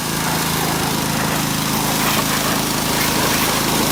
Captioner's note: water whooshing